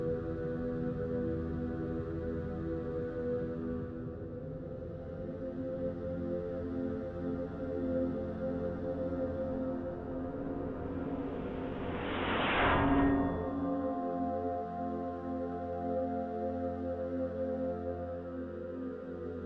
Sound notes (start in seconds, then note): 5.9 solemn orchestral music continues; 12.3 distant metal clanking; 14.9 solemn orchestral music